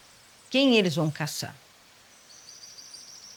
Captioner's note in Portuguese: none